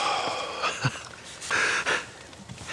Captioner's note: sigh